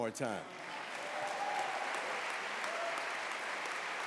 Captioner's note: applause